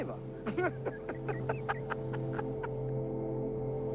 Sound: laughter

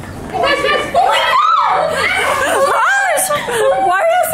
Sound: excited screaming

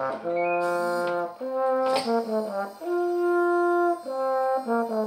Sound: robotic sound

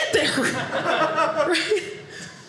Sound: audience laughing

